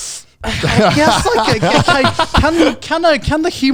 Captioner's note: everyone laughs